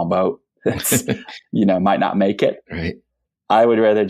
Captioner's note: laughs